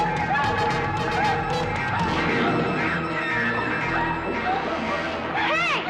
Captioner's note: screaming